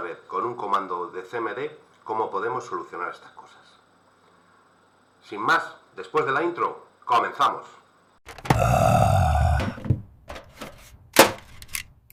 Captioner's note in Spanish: gemido